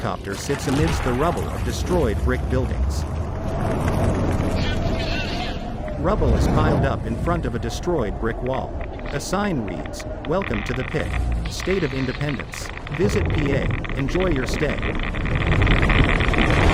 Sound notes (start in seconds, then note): 0.2 creatures roaring; 6.6 geiger counter crackles; 6.6 wind blows furiously; 12.9 geiger counter crackles loudly